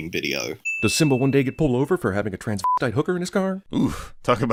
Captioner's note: slur